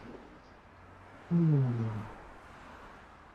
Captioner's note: Ayman sighs